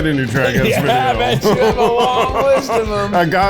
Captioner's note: laughs